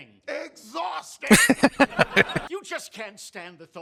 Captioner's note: laughing